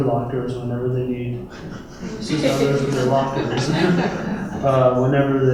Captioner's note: laughter